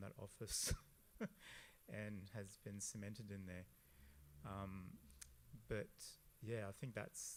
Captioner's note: laughs